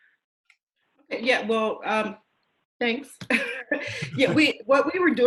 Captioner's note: laughing